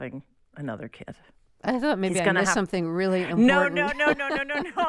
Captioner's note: laughter